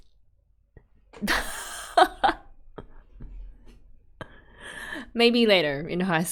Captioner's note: laughs